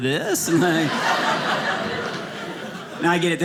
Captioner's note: audience laughing